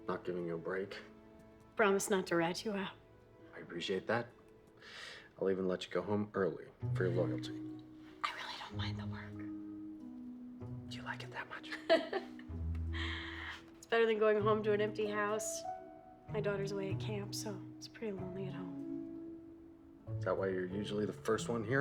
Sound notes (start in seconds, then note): 7.2 whispers; 11.7 laughing